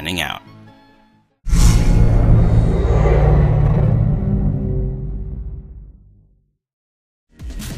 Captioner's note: whoosh~